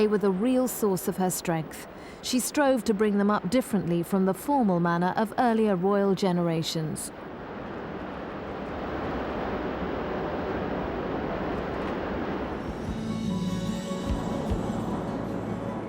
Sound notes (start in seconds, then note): 7.2 water rumbling; 12.4 gentle music